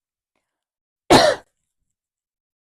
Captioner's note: coughing